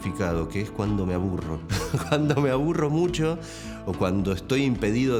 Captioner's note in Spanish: se ríe